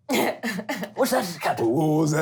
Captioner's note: laughing